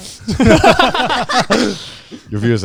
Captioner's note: everyone laughing